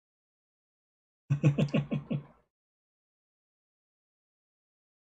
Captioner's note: laughs